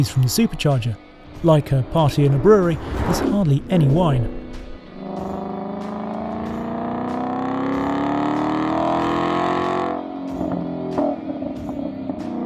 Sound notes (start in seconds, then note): 5.6 engine revving